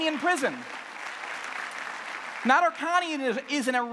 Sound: clapping

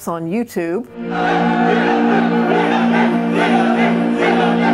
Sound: crowd chanting

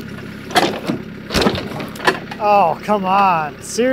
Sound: log clatters

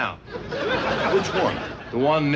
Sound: laughter

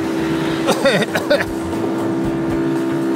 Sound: coughs

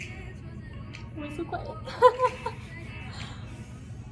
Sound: laughs

